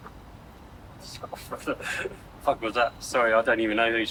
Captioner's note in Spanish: risas